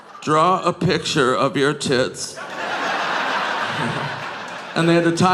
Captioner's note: audience laughing